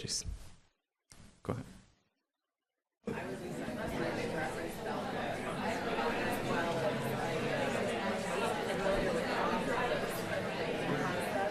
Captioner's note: crowd discussing